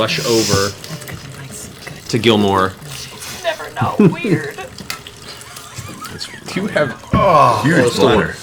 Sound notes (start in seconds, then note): 2.8 pouring drink; 7.1 contented sigh